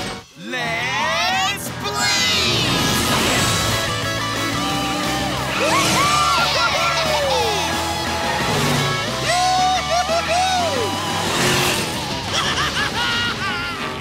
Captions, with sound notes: Let's Blaze! [cheering] Woo hoo hoo hoo! [laughing]